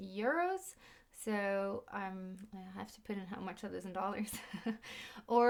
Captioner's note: chuckles